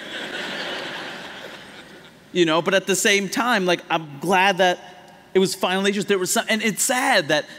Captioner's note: laughter